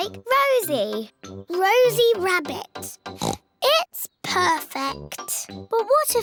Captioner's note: oinks